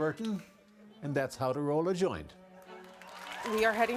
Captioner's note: laughter